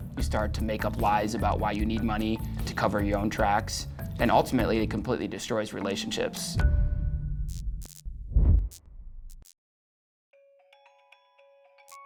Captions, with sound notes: you start to make up lies about why you need money to cover your own tracks. And ultimately, it completely destroys relationships. [neon buzzing]